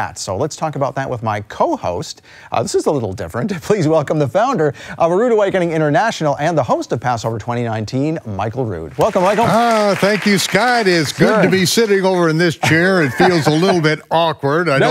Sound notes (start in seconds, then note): 8.9 applause